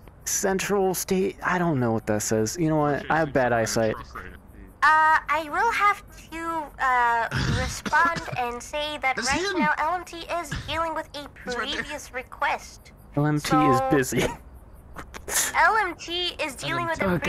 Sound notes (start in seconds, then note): 14.9 laughs